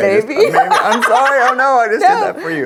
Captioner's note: laughs